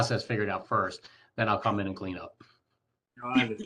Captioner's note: laughter